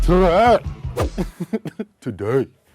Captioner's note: laughter